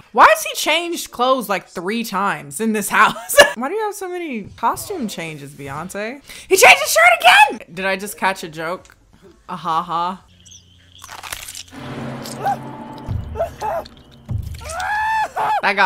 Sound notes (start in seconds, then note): 11.1 fingers cracking; 11.6 intense music; 12.1 man screaming